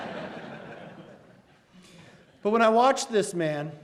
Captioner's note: laughs